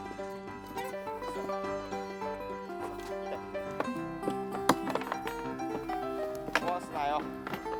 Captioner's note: laughs